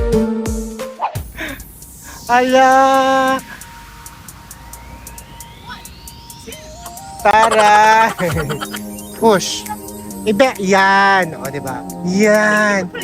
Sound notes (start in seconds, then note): 6.7 laugh; 6.8 laughing SFX